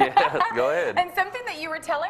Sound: both laughing

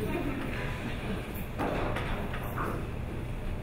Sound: audience laughs

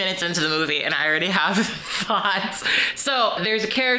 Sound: chuckles

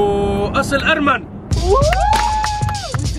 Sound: all cheer

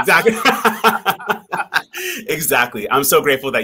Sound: both laughing

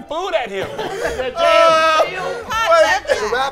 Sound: laughing

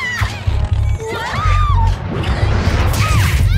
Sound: yelps

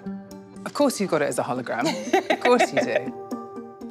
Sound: laughs

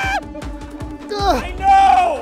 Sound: screams; grunts

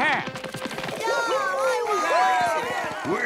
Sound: clamoring

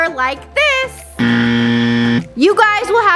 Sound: buzzing

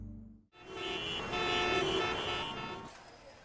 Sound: vehicles honking

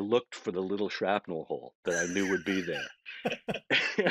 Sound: laughing

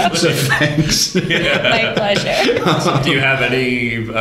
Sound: laughter

